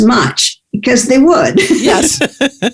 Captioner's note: laughs